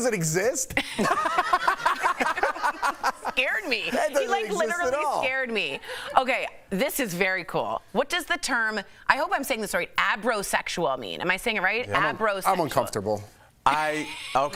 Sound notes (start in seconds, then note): 4.9 laughter